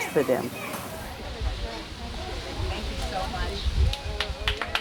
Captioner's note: chatter; applause